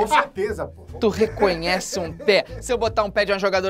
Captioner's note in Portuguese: risadas